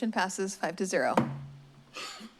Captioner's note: strikes the gavel